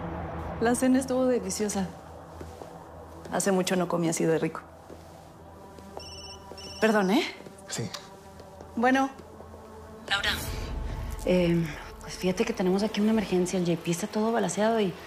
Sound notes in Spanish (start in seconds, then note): 6.0 Timbre de teléfono